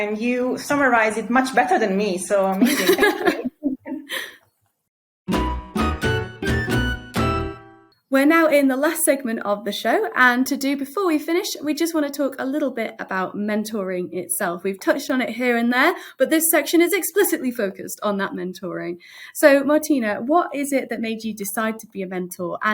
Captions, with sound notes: and you summarize it much better than me, so amazing. (both laughing) (bright music playing) - We're now in the last segment of the show, and to do, before we finish, we just wanna talk a little bit about mentoring itself. We've touched on it here and there, but this section is explicitly focused on that mentoring. So Martina, what is it that made you decide to be a mentor,